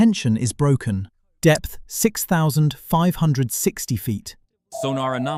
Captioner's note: system Beep